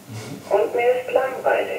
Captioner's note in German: Alarm